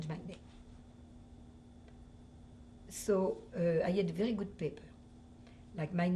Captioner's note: pauses for 3 seconds